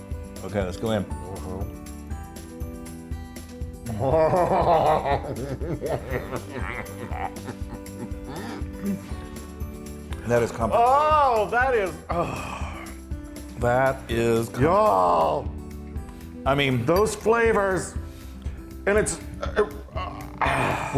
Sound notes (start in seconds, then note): 5.7 laugh